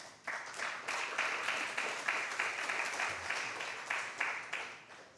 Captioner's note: applause